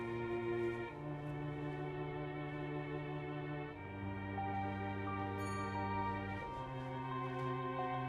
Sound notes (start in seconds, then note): 5.0 dings